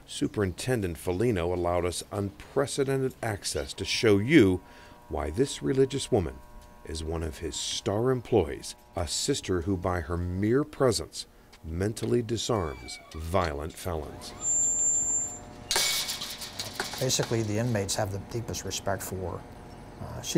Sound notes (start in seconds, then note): 15.7 metallic banging